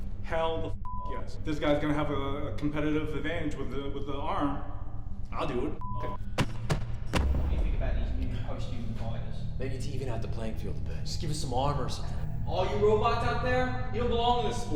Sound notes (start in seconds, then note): 0.8 beep; 5.8 beep